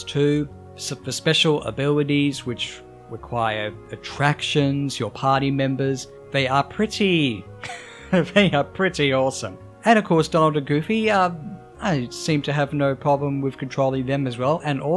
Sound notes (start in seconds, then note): 7.6 chuckles